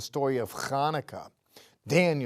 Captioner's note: speaking in Hebrew